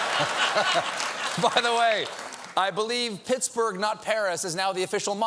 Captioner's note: laughter